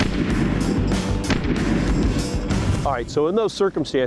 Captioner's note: gun firing